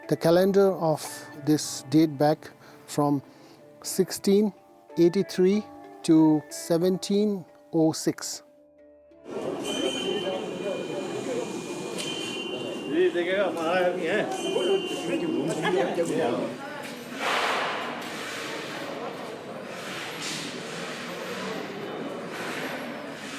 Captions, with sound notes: The calendar of this date back from 1683 to 1706. (bell dinging) (people speaking foreign language) (object thuds) (object scraping)